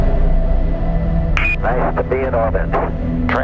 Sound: radio voice 4

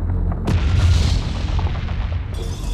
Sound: explosion

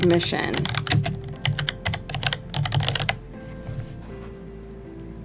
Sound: typing

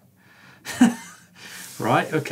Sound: giggles

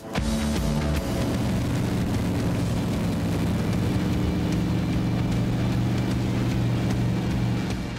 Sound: rock music; motors roaring

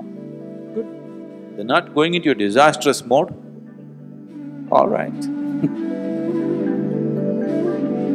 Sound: laughs

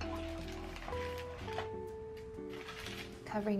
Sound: parchment crinkling

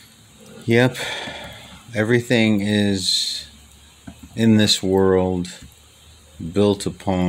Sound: sigh

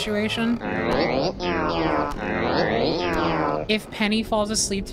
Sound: squeaking Alongside Wooden Creaking

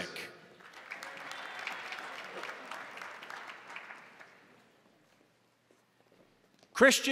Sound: crowd applauding; crowd cheering

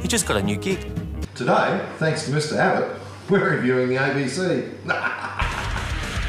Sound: cackles

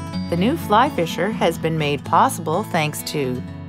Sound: voiceover

